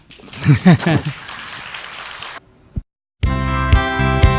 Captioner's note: audience applause; laughter